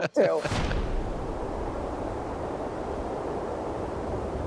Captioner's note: wind blowing